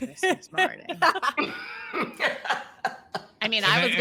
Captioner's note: all laughing